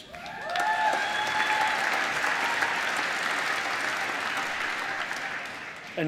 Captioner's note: applause